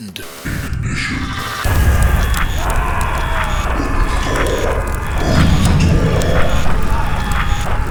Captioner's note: the sound of fire and screaming - there is also another voice